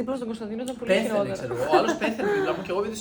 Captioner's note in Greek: γέλια